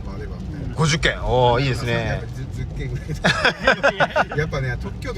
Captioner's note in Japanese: 笑い